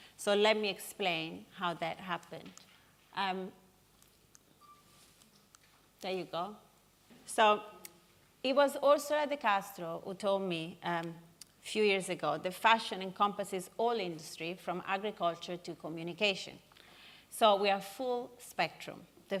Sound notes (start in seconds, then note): none